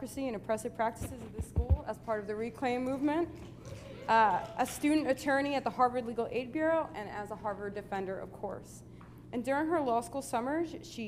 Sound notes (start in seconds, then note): 3.8 cheering